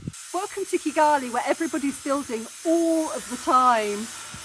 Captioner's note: grinding